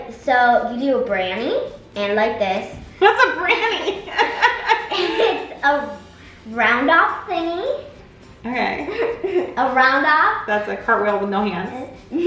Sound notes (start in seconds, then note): 3.0 both laughs